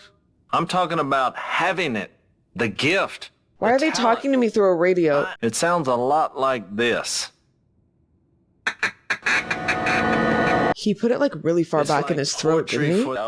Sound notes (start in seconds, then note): 8.7 blowing duck call; 9.1 eerie tone